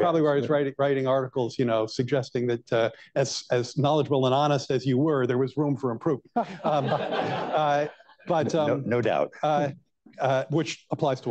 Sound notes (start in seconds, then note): 6.3 laughter